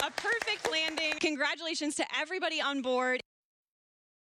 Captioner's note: applause